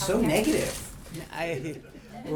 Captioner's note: laughter